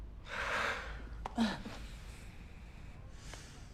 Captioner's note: both sighing